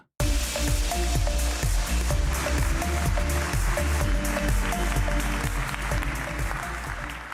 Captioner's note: applause